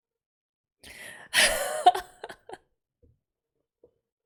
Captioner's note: laughs